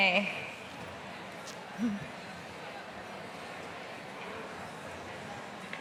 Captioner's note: people chattering